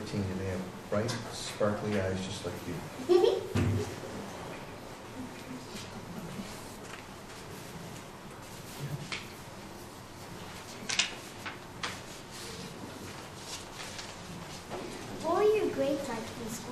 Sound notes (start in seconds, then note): 2.2 chuckle; 4.3 shuffling papers